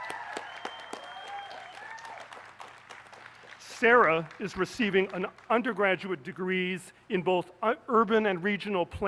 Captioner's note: applause